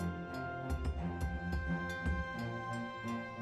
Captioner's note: none